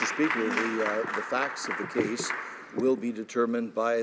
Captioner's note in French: voix de l'interprte